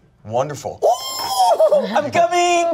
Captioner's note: squeals